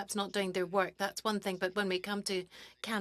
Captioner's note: speaking French